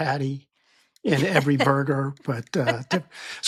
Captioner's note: laughing